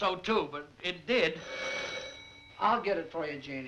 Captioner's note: doorbell ringing